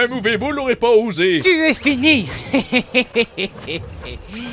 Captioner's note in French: rire